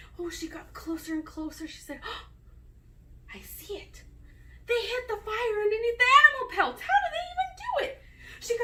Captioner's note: gasp